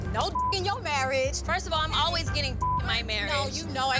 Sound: beep; beep

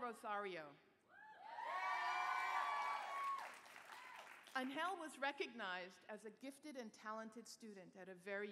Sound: cheering

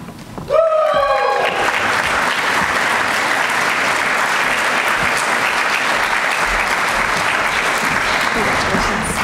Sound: applause

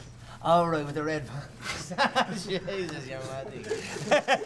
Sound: laughing

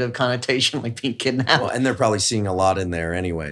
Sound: laughs

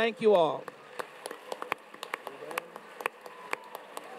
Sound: audience claps

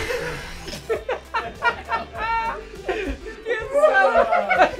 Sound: laughing

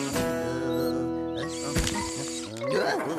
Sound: Mr. Beasley Humming

